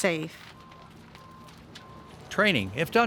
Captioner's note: fire crackling